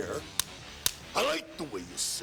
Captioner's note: clapperboard clapping